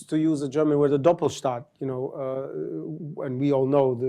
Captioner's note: german